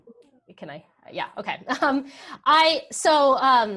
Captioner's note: laughs